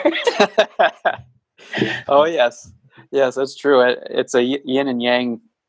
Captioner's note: laughs